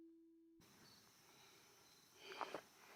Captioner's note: insects chittering; breathes uneasily